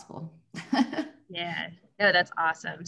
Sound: laughs

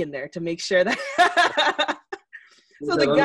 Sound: laughs

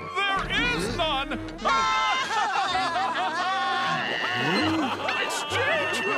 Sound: laughing

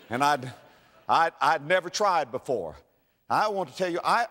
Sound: audience laughter

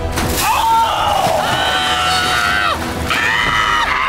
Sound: men screaming

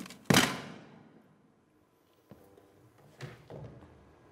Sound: telephone slams

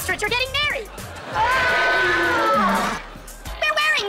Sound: screaming

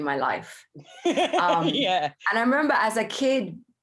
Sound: laughs

